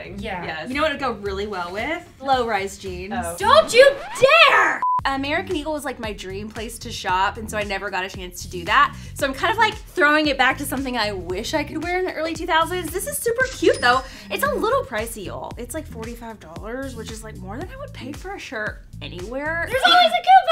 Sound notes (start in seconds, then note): 4.8 beep